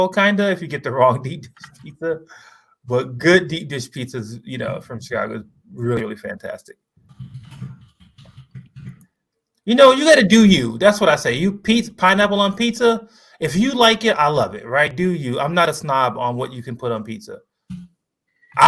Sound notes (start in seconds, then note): 2.0 laughs